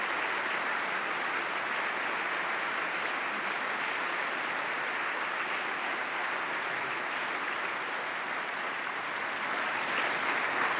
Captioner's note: applause